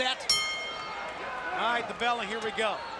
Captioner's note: bell ringing